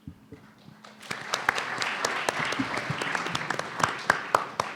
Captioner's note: audience clapping